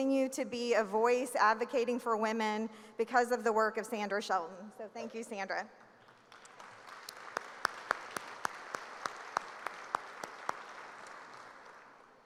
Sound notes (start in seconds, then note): 6.0 applause